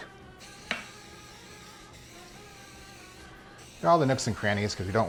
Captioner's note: can spraying